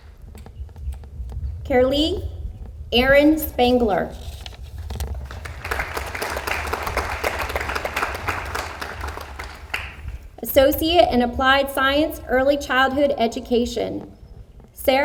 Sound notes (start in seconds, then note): 5.0 audience applauds